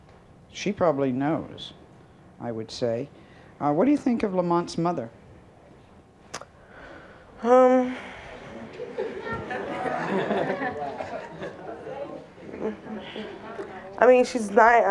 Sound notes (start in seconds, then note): 7.4 sighs; 8.4 audience laughing